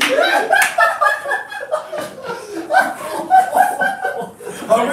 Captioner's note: evil laughter continues